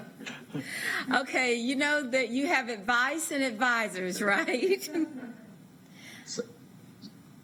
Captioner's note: laughter